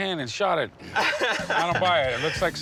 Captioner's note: laughs